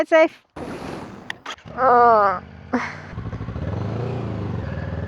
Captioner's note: grunts